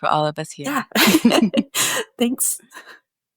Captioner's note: chuckles